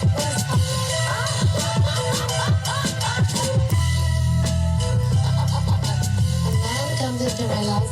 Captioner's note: laughing